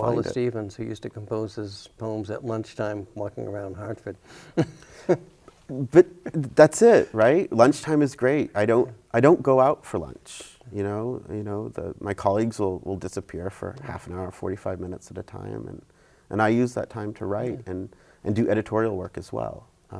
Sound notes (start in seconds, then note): 4.3 chuckles